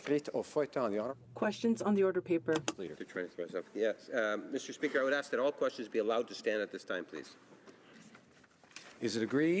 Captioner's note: speaking in French